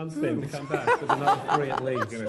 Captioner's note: laughter